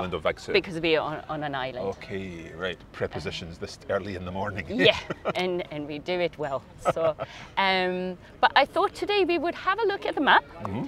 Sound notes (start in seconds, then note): 4.7 laughs